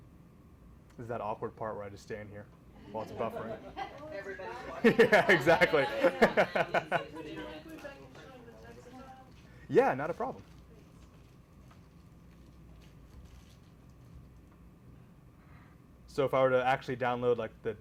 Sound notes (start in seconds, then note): 3.2 laughing; 7.0 laughs